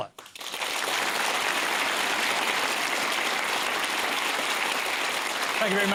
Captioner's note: applause